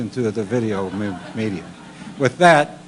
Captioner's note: laughter